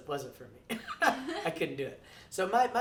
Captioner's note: laughing